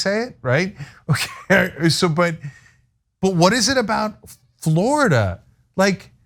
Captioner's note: laugh